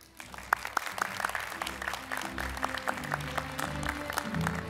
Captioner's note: applause, Music